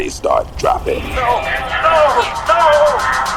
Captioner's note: yelling